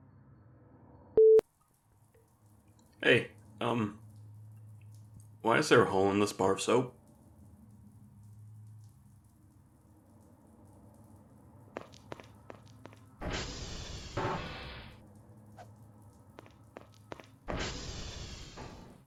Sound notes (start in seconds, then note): 13.1 door open; 15.4 sound of throwing; 16.4 door closing